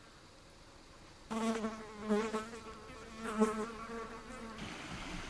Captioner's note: insects buzzing